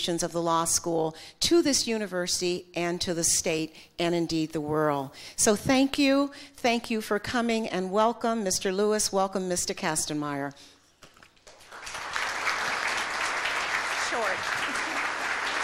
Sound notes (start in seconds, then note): 11.5 audience applause